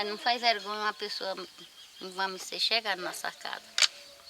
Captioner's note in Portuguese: Canto de pássaros